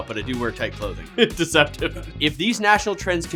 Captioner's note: chuckles